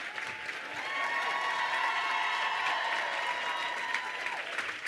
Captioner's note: crowd cheers loudly